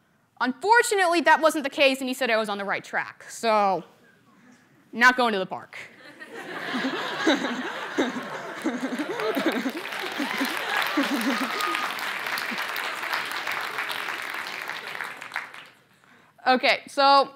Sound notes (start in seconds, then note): 6.0 laughter; 8.0 applause